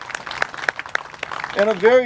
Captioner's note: clapping